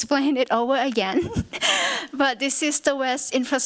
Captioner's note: chuckles